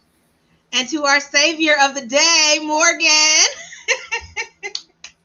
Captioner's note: laughs